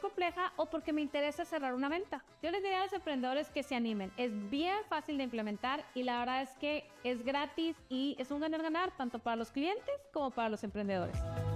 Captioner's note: speaking another language